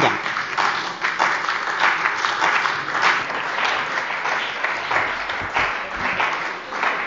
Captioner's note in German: Beifall bei der CDU und dem BÜNDNIS 90/DIE GRÜNEN